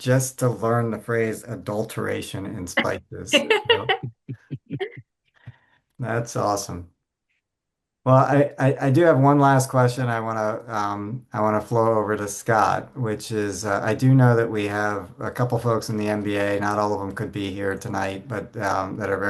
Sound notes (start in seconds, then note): 2.8 laughing